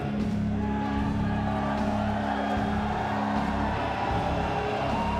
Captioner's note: crowd cheering